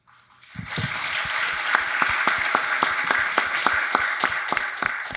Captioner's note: audience applauding